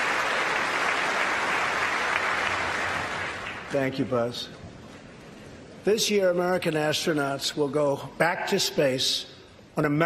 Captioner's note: applause